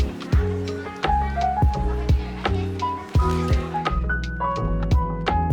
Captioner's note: laughs